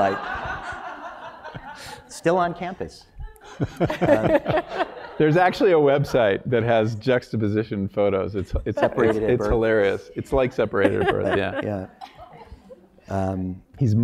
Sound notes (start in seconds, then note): 0.5 laugh